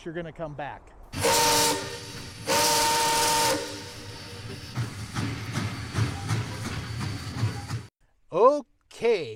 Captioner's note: steam whistle and train sounds